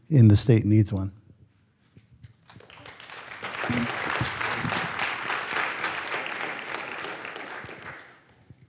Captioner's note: applause